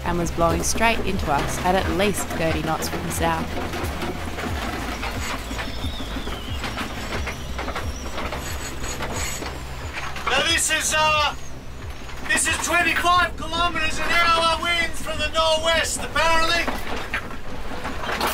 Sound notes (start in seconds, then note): 4.1 wind whistles; 4.1 yacht rattles